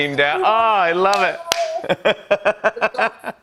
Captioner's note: laughs